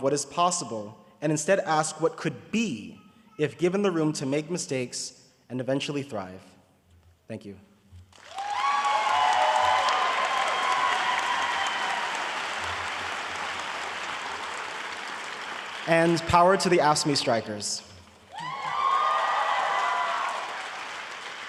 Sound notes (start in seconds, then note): 8.1 audience applauding